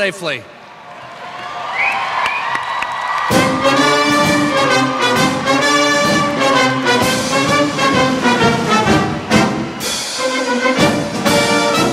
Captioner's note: applause